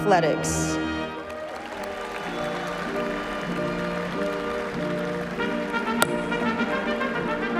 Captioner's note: cheers And Applause